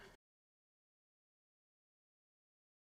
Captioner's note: silence